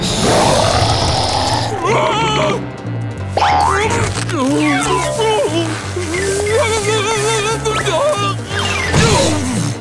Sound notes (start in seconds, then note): 0.0 growling; 0.2 screaming; 6.0 grunting